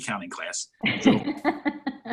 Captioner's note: laughs